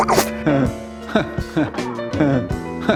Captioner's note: continually giggling